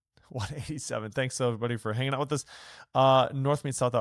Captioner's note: chuckles